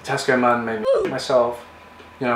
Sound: ooh! Effect

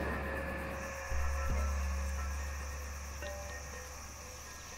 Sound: forest bugs chirping

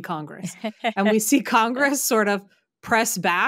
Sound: laughing

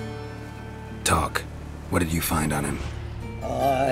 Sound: magical whoosh

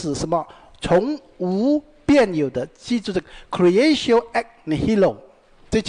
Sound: Latin

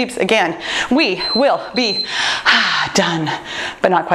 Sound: timer beeping

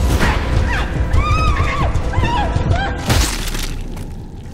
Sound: whimpering; flesh squelches, blood dripping

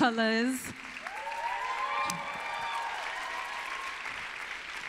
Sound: applause

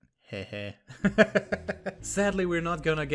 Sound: laughs

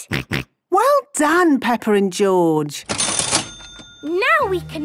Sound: till rings

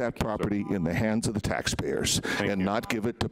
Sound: timer buzzing

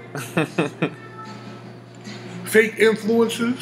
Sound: giggling

